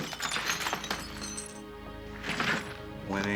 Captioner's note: glass shatters